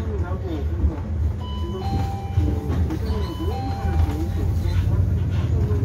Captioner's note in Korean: 하차벨 소리